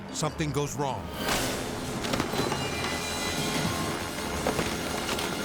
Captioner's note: bodies thudding; cable snapping; helicopter droning